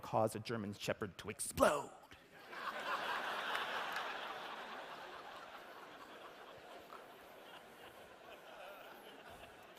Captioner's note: laughter